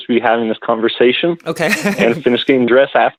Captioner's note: laughs